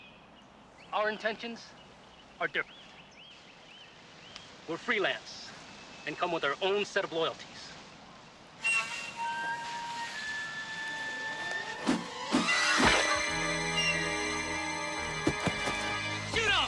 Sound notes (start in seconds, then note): 8.8 dramatic music; 11.3 machete whirring; 12.8 man yelling; 15.0 body thudding